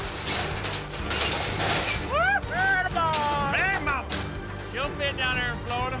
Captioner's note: cow bangs against gate, guys shouting